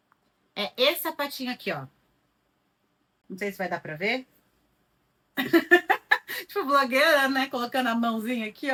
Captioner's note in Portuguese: risadas